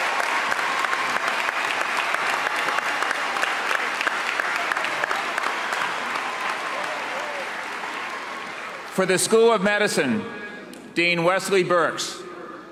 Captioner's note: cheers and applause